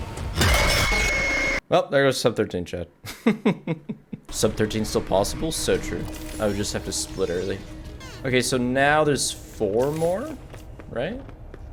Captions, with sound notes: Welp, there goes sub-13 chat. (Laughs) Sub-13 still possible? So true. I would just have to split early. Okay, so now there's four more, right?